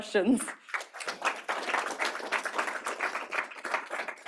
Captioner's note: applause